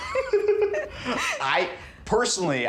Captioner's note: laughing